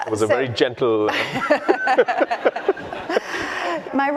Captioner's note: laughter